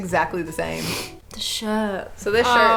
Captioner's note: sniffling